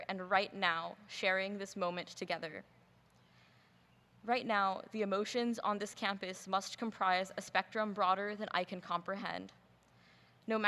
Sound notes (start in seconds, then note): none